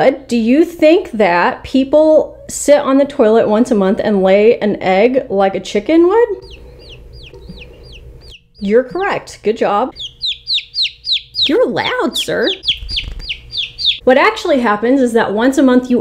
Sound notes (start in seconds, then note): 6.3 Uno chirping; 9.9 Uno chirping loudly